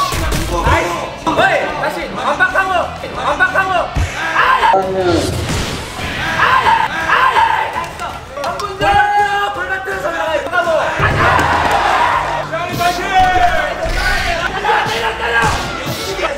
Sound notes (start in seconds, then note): 7.7 clapping